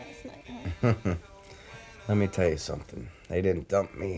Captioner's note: chuckles